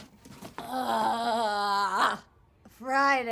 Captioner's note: Gail groans